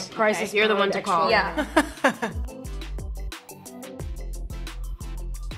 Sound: Myha'la laughs

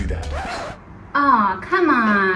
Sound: record scratching

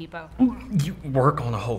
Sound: gagging noise

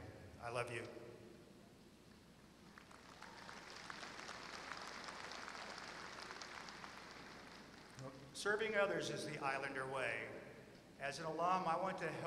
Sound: applause

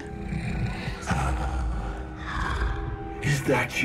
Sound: breathing heavily

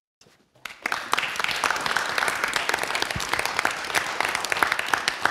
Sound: applause

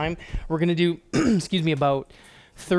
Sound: clears throat

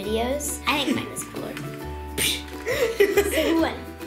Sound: scoffs

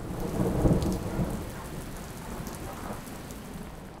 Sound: storm sounds

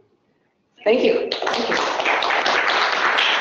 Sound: applause

